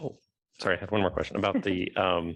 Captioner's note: laughter